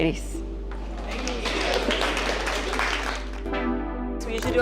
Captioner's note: girls applaud